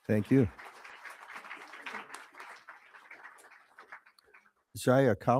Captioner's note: crowd applauding